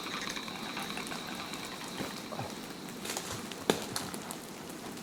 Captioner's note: rain pattering